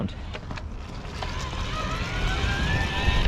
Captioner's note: motor roars